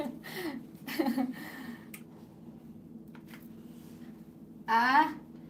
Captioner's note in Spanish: Risas